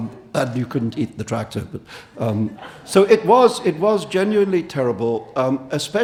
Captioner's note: audience laughing